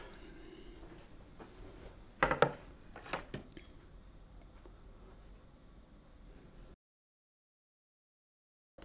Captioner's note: silence